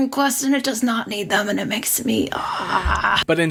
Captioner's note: groans